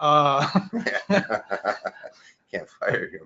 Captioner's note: both laugh